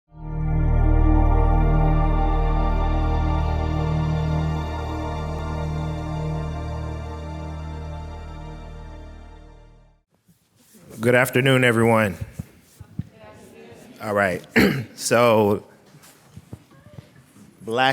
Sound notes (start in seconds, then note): 1.2 calm ambient music; 13.0 crowd